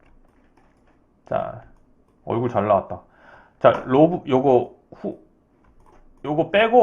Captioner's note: sigh